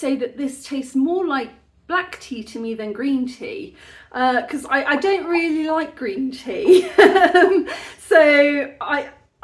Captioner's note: laughing